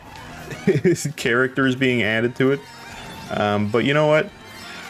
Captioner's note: laughs